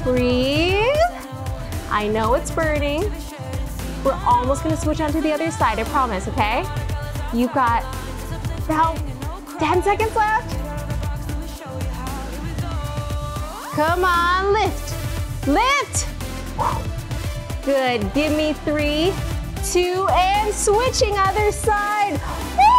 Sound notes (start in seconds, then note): 16.5 exhales